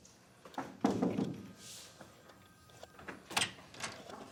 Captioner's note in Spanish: toques en la puerta